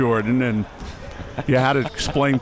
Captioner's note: chuckling